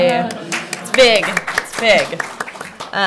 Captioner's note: applause